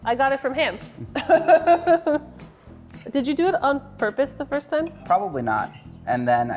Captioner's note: laughs